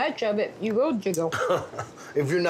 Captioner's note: laughing